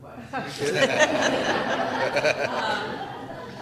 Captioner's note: laughter